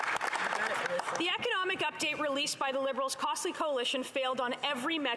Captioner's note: some Applause